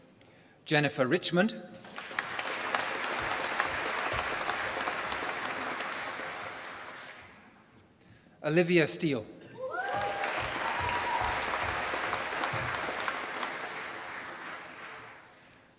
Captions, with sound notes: Jennifer Richmond. (APPLAUSE) Olivia Steel. (APPLAUSE)